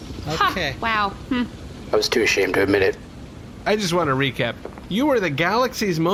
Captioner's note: slowly and angrily